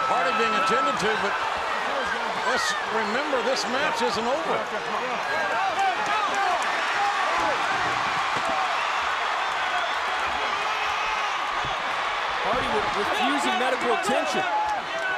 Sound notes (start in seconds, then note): 5.1 crowd cheers and shouts indistinctly